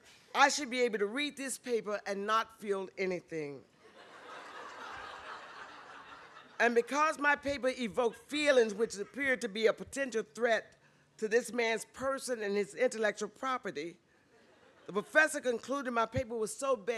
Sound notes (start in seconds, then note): 3.8 laughter